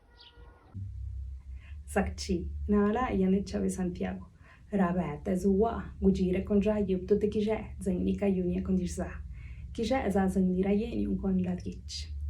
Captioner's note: Speaking in Teotitlán del Valle Zapotec